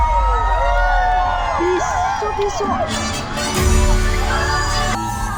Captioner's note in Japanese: 大歓声